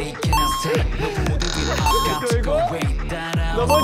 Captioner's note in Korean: 삐그덕~